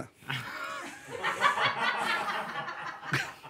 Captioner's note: laughter